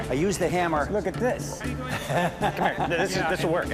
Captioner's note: laughs